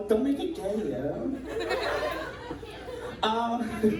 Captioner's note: crowd laughs